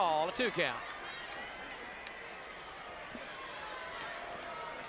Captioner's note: audience cheers